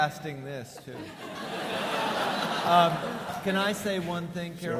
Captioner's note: audience laughing